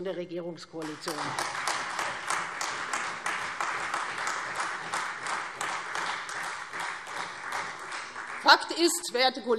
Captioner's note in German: Beifall Freie Demokraten und vereinzelt SPD und AfD